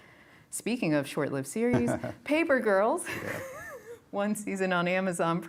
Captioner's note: chuckles